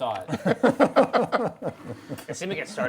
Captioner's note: laughing